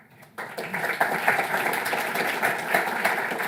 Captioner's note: applause